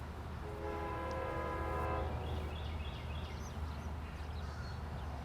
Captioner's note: distant train horn blares